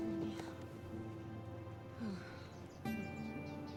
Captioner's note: sighs